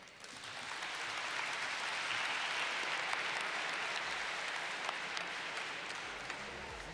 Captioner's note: applause